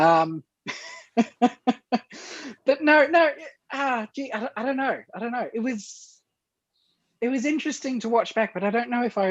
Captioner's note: laughter